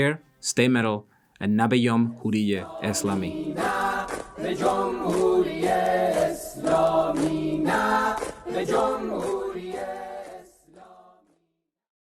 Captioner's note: in Farsi